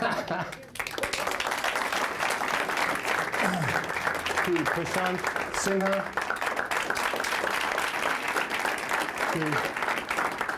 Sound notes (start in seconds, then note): 0.1 applause; 6.0 applause